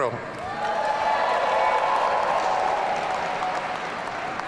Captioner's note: audience cheering